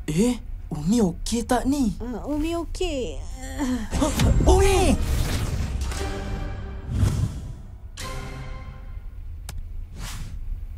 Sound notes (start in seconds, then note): 3.2 groans weakly; 3.4 both gasp